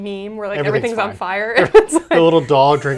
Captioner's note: laughs